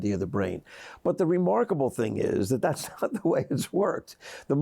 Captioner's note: laughs